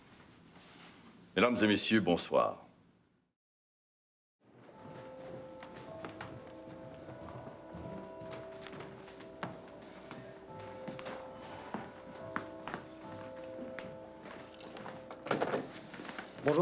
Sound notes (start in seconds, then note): 1.5 Jean speaks in foreign language; 4.9 clock chiming